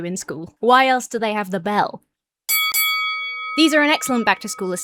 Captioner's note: fight bell rings